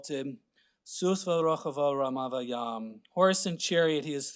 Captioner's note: speaking Hebrew